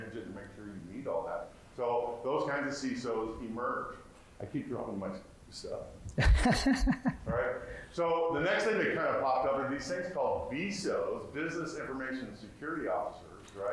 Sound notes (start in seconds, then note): 6.1 laughing